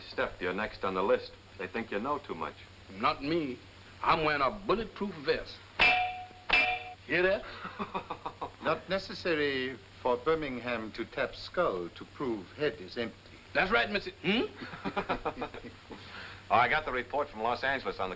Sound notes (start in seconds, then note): 5.8 clangs; 7.4 laughing; 14.5 men laughing